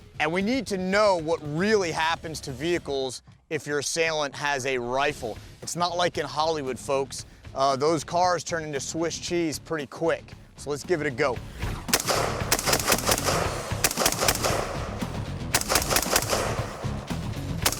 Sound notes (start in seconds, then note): 11.8 gun firing; 12.7 techno music